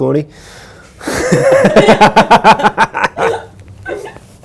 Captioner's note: maniacal laughter